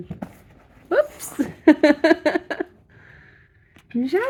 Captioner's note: laughing